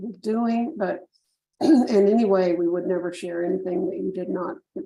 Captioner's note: clears throat